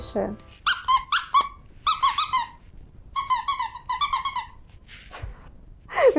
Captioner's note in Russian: писк